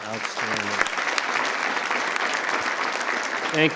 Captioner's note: attendees applauding